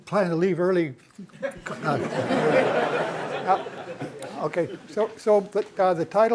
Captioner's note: laughter